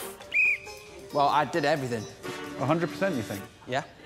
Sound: whistles

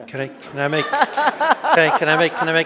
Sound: audience laughing

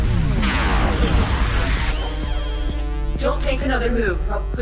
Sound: buzzing ascends; buzzing descends

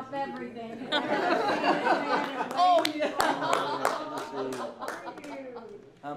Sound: laughter

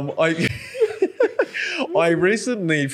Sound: laughing

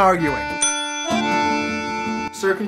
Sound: arguing

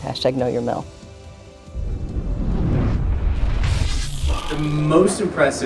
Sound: swoosh sound

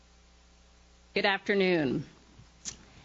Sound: none

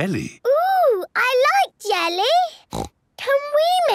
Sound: snorts

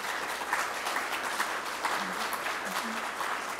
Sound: applause

